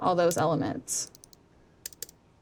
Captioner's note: typing